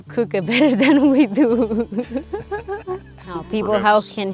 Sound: laughing

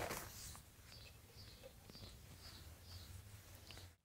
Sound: birds chirping

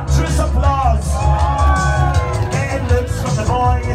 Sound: cheering & applause

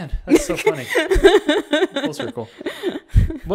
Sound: laughs

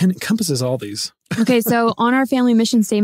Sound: laughing

